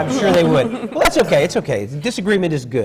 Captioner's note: laughter from the panel